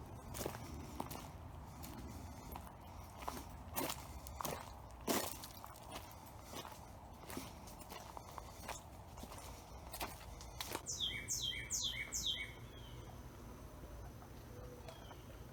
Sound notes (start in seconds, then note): 10.9 birds chirping